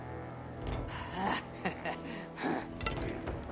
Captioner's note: laughs